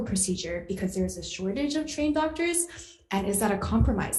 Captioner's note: none